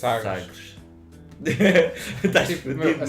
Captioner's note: laughs